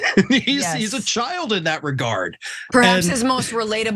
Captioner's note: laugh